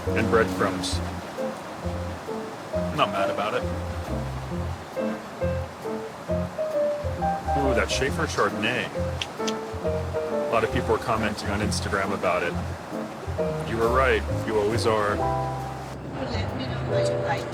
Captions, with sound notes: and breadcrumbs. I'm not mad about it. (light bouncy music) Ooh, that Shafer chardonnay... (clicking tongue) A lot of people were commenting on Instagram about it. You were right. You always are.